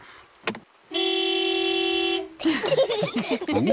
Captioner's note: horn honks; all laughing